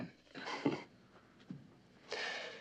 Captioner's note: kıkırdar